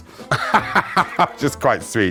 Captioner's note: laughing